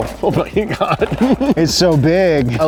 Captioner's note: laughs